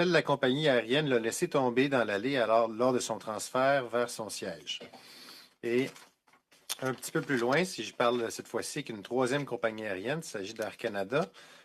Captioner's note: speaking French